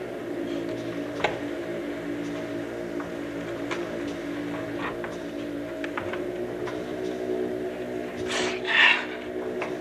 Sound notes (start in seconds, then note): 2.3 creaky steps